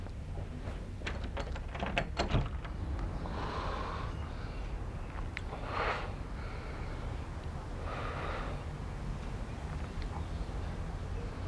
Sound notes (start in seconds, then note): 3.2 exhales